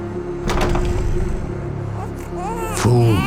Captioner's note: door slams; baby cooing